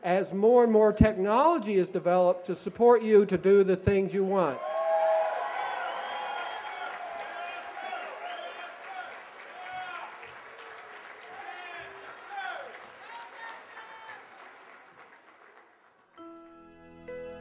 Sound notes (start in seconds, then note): 5.1 cheers and applause